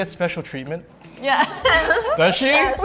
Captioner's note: laughing